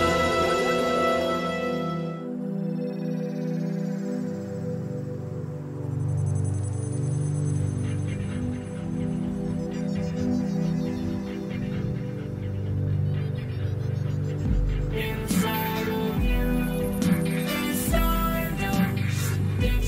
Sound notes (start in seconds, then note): 0.0 dramatic music playing; 0.0 ghostly yelling; 1.6 cosmic space music playing; 1.6 mystical whirring